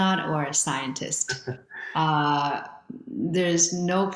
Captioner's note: chuckles